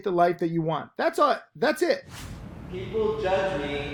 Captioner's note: air whooshes